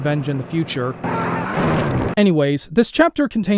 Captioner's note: guy screaming